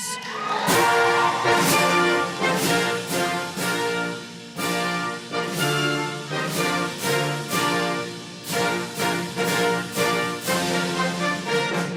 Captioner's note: applause and Music